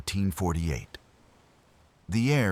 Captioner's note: wind Blowing